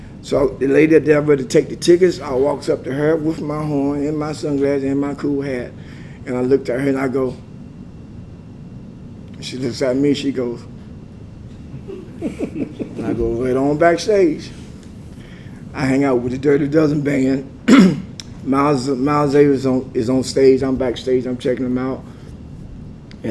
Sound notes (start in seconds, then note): 11.7 laugh; 17.6 cough